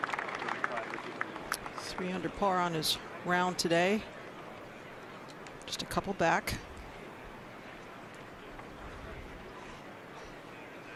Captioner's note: applause